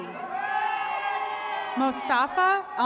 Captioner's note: attendees cheering